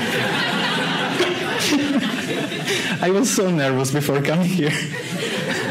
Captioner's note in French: rires; rires